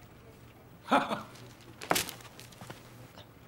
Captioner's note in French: riant